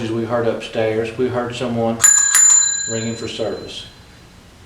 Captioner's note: ringing